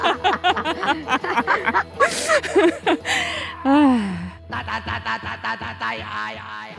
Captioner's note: laughter; laughter